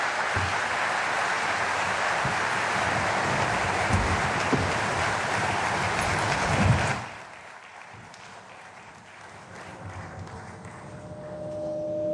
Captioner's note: applause